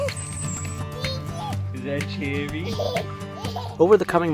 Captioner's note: child giggling